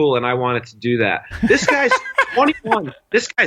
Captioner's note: laugh